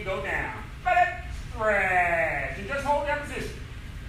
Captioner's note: enthusiastic shouting